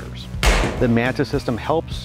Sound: gunshot

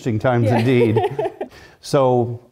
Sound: laugh

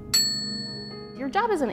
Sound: chiming

